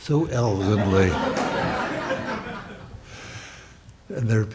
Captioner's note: audience laughs